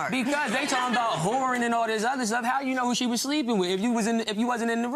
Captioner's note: crowd laughing